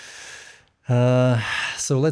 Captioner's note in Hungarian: sóhaj, meglepett hang